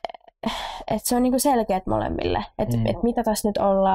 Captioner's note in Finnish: Mertsi huokaa